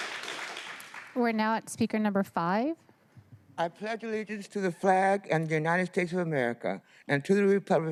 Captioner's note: applause